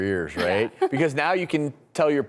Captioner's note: laughing